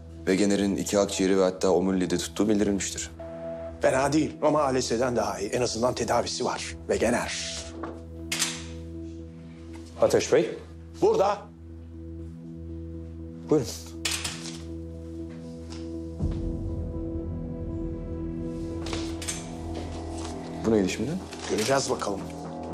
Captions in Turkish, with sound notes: Wegener'in iki akciğeri ve hatta omuriliği de tuttuğu bildirilmiştir. Fena değil ama ALS'den daha iyi. En azından tedavisi var. Wegener... (Kapı açıldı) -Ateş Bey. -Burada. Buyurun. (Gerilim müziği) -Bu neydi şimdi? -Göreceğiz bakalım.